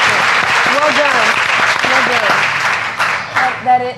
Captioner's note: applause